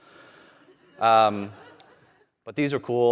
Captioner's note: laughter